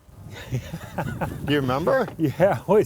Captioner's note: laughs